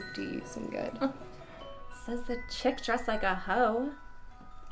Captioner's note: chuckles